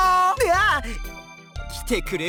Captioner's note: surprised